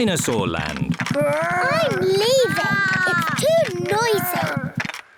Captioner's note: both roar